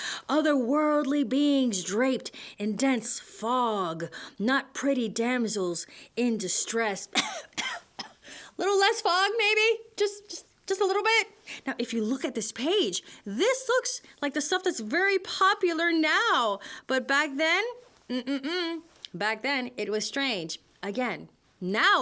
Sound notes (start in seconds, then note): 7.1 coughs!